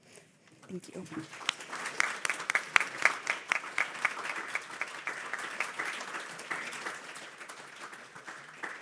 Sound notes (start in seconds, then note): 0.7 audience applauding